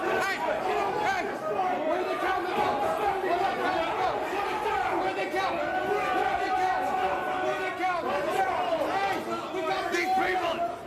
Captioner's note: yelling